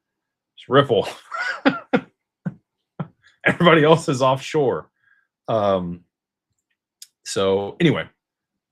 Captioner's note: laughter